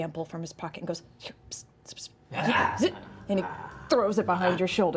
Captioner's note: eager growling